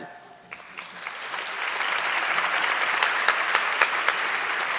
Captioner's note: audience clapping